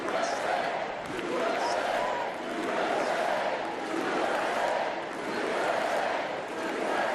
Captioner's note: cheers and applause